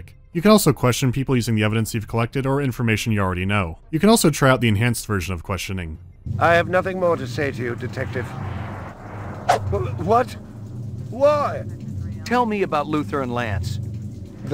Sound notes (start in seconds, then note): 9.2 swoosh